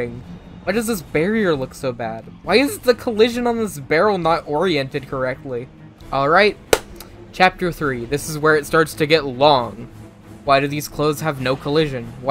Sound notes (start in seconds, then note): 6.7 clap